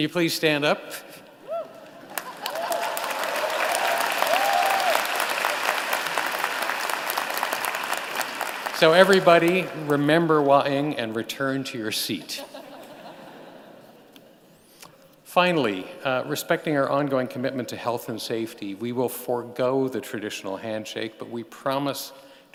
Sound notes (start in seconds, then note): 8.5 applause; 12.3 laughter